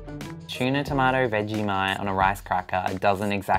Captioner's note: voiceover